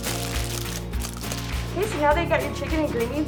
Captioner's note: foil crinkles